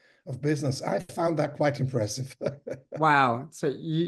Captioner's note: chuckles